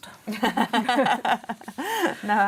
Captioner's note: laughter